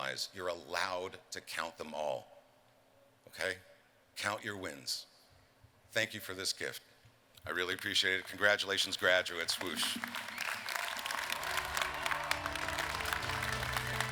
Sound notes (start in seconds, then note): 10.8 applause